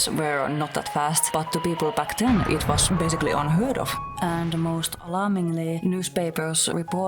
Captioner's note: train crash noises